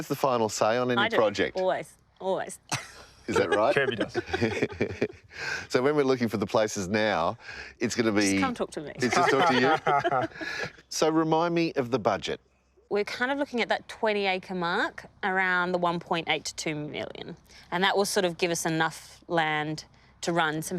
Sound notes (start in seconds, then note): 3.2 laughing; 9.0 everyone laughs